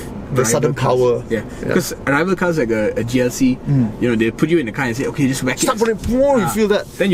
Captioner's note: car noises